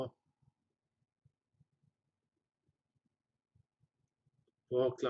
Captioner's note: pause